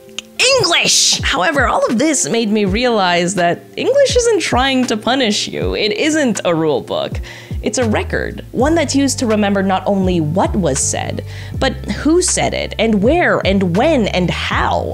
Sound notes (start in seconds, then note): none